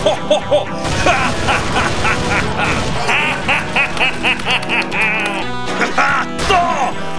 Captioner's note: laughs like a maniac